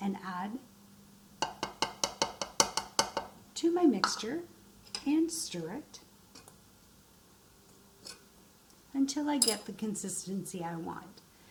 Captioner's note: stirring